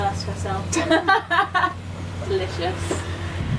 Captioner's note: laughter